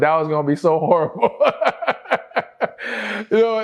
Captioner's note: laughter